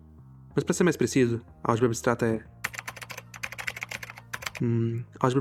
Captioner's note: typing sounds of 'what is an abstract algebra'